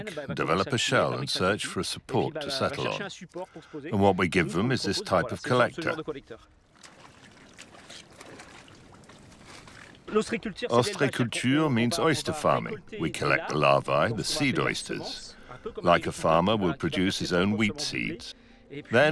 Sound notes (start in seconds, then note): 6.3 water splashing; 10.6 speaking in foreign language